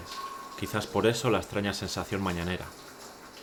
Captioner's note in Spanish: Voz en off